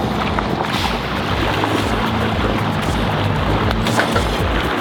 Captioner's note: water splashing